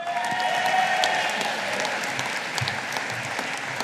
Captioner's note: audience applauding